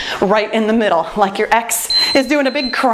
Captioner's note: timer beeps